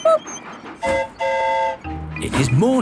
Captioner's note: train whistle toots; mimics train whistle